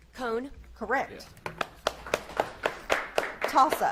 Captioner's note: audience claps